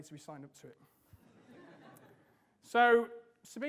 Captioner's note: audience laughs